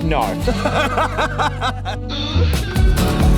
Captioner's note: laughs